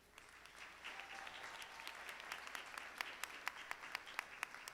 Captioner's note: audience applauding